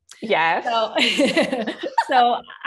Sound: laughter

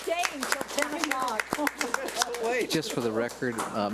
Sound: audience applauds

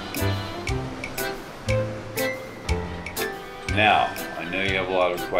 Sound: waves crashing

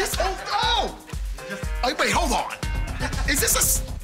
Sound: laughing

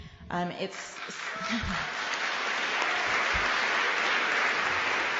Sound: applause

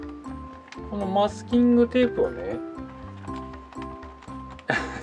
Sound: laughs

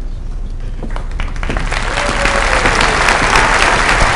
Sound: applause

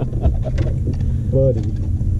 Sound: anglers laughing

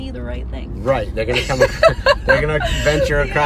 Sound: laughs

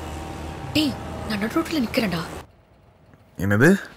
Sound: vechicles Passing

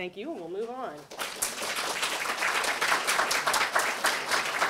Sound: applause

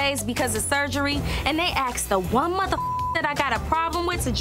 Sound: beep

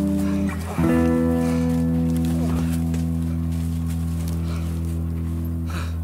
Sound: all panting heavily

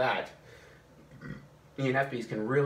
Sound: burps

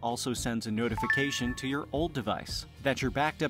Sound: phone dings

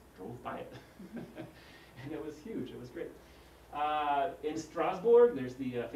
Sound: laugh

